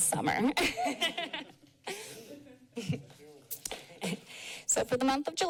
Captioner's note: laughter